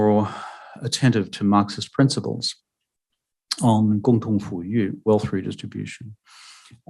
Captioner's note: speaking mandarin